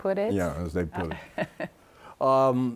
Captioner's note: laughs